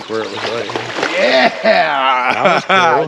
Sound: fish splashing

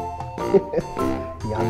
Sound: laughs

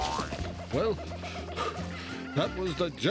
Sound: panting

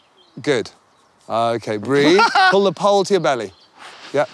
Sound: titters

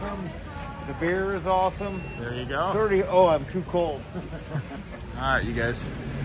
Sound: beep

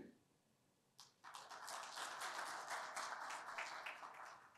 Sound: applause

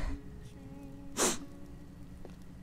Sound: sniffles

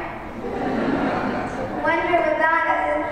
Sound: laughter

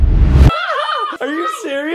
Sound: screaming

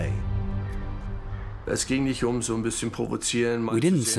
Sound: speaking German

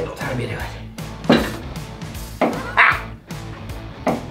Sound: clunking metal

